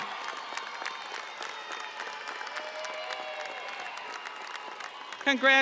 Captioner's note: audience cheering and applauding